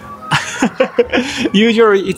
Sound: laughs

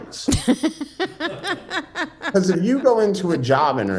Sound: laughing

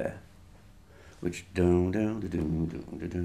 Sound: humming

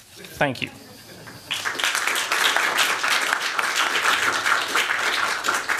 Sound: applause

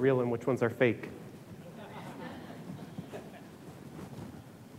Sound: audience laughs

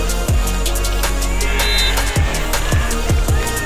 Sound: crowd cheering

